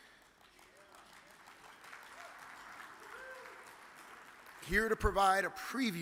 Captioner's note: audience cheers and applauds